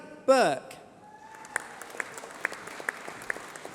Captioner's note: applause